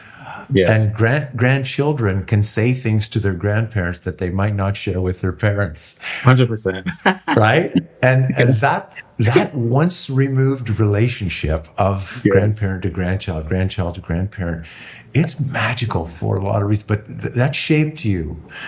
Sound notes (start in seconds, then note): 6.3 laughing